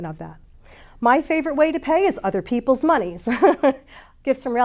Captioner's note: chuckles